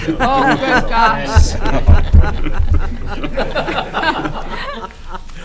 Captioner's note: all laughing